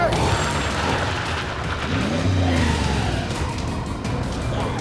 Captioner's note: tires screeching